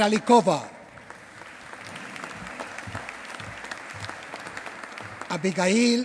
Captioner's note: applause